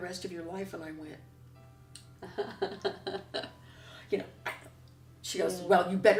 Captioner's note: laughter